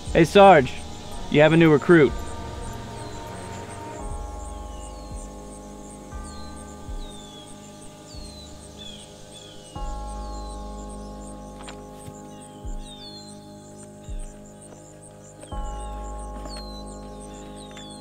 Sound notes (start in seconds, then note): 4.0 birds twittering; 4.0 insects chirring; 10.2 somber music